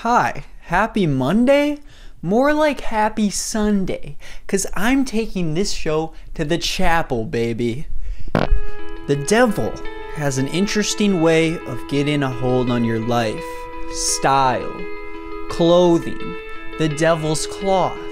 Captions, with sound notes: Hi, happy Monday? More like happy Sunday, 'cause I'm taking this show to the chapel, baby! [fart sound] [inspiring music] The devil has an interesting way of getting a hold on your life- STYLE Clothing The devil's cloth